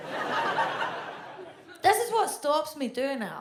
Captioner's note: audience laughs